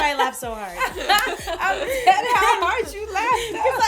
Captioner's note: laughter